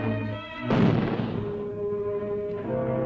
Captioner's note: firing outdoors